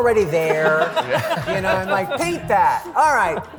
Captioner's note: laughter